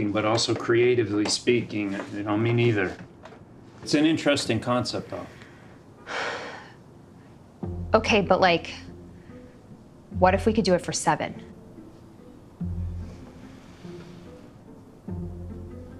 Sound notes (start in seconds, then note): 5.2 exhales